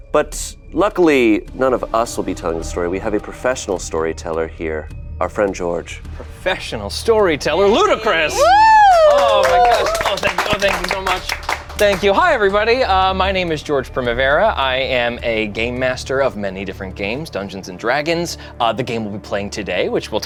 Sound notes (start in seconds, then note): 8.4 group claps